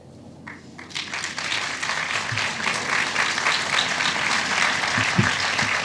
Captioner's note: applause